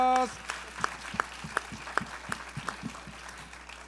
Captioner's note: all applaud